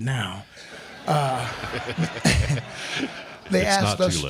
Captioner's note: crowd laughing